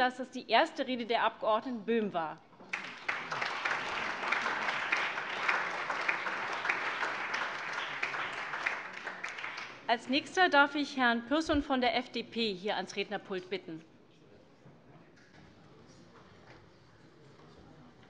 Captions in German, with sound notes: dass das die erste Rede der Abg. Böhm war. [Beifall] Als Nächsten darf ich Herrn Pürsün von den Freien Demokraten ans Rednerpult bitten.